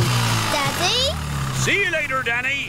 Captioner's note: engine starts